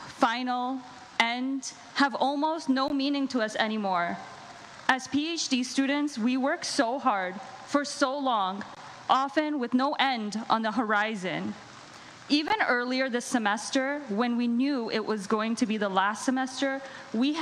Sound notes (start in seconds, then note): none